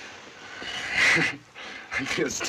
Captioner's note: chuckling